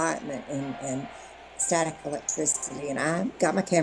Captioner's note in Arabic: صراخ الجمهور